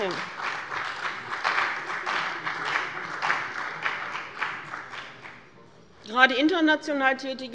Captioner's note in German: Beifall bei dem BÜNDNIS 90/DIE GRÜNEN und der CDU